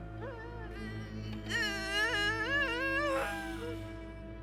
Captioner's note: straining